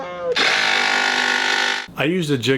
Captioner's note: saw whirring